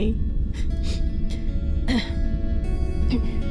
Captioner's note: laugh/sob; sniffle